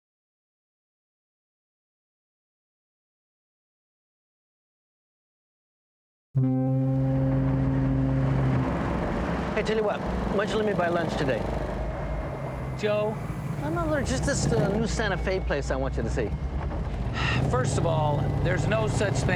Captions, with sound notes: ■ (foghorn blowing) - Hey, tell you what. Why don't you let me buy lunch today? - Joe. - No, no. There's just this new Santa Fe place I want you to see. (sighing) - First of all,